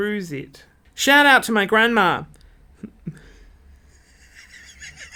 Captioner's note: laughs